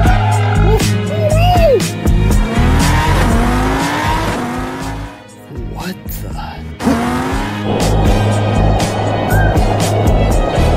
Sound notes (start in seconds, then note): 7.1 truck drives